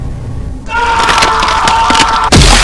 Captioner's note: Simmons yells